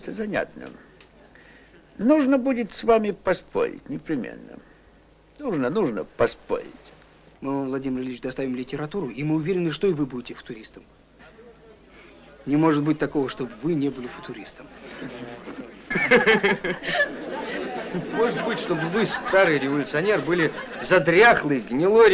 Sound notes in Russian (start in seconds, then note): 14.1 смех